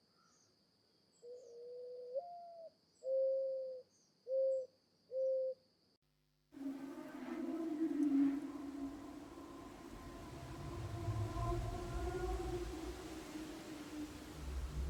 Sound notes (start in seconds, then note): 6.6 animal bellowing